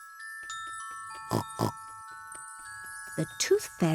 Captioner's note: oinks